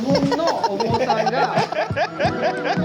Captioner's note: speaking Japanese; all laugh